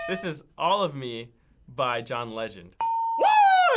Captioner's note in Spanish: ding